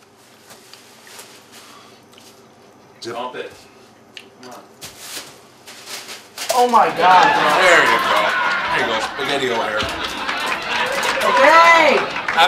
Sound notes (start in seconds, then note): 3.1 voiceover; 6.8 audience laughs